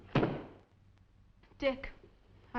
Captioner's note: book thudding